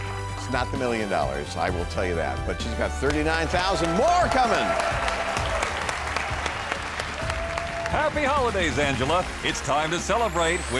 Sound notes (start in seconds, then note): 4.3 clapping; 4.7 audience applauding